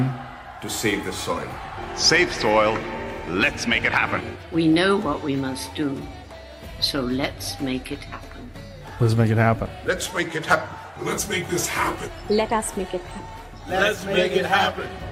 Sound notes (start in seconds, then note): 0.0 cheering/Applause